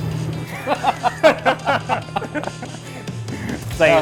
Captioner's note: laughing